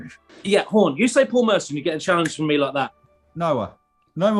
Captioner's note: clicks fingers